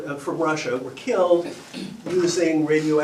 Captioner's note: coughs